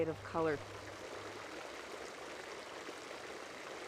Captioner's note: soft splashing